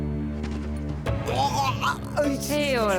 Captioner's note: groaning; sighs